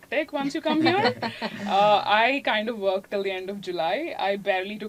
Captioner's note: laugh